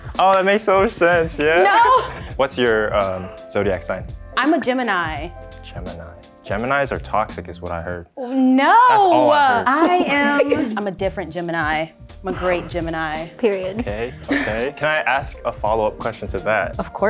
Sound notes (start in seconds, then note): 0.8 laughing; 8.9 girls laughing